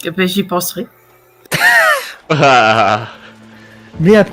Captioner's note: laugh